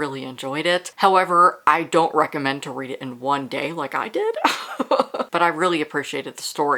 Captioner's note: laughs